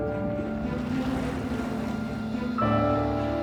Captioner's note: splashing